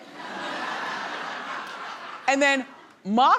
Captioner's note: audience laughing